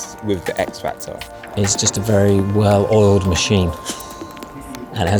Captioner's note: laughs